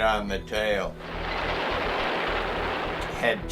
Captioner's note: rapid gun fire